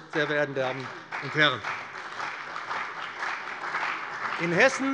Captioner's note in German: Beifall bei dem BÜNDNIS 90/DIE GRÜNEN und der CDU